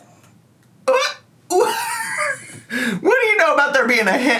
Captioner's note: laughs